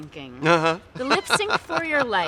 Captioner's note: laughs